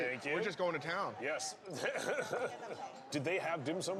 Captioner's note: laughing